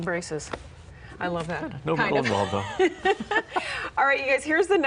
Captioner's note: laughs